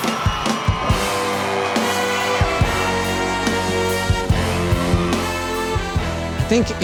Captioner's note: audience cheering; lively music